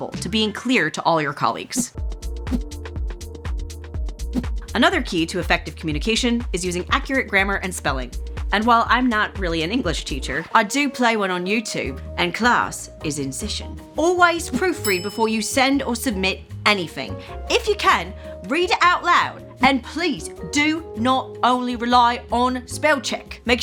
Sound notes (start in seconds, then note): 10.6 cockney accent; 14.8 bell dings